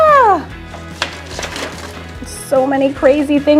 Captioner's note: stencils rustle